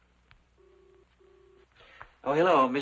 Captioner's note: line ringing